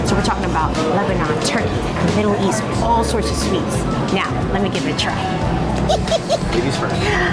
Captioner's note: laughs